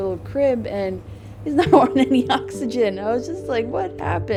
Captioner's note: laughs